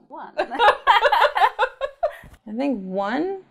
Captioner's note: laughter